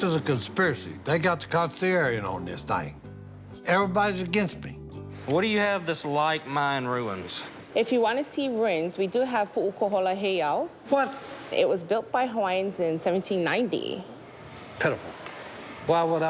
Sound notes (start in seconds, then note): 8.7 speaking Hawaiian